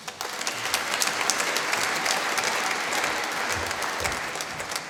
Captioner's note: applause